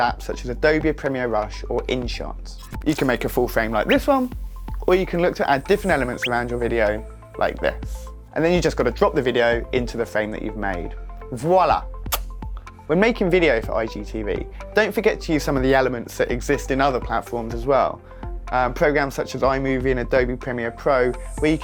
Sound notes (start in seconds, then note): 12.1 lips smacking